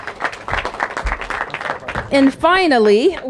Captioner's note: applause